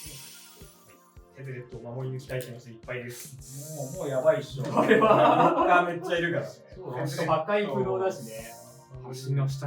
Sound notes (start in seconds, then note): 4.6 laughs